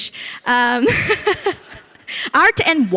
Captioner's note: laughs